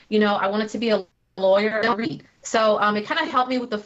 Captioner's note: technical interference